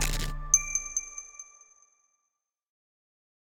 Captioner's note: bright upbeat music; logo crackles